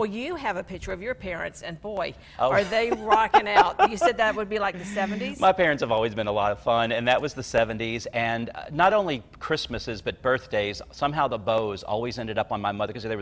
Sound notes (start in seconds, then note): 2.5 laughs